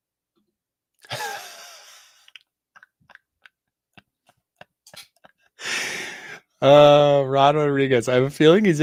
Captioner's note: laughing